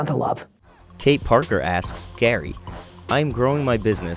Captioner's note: voiceover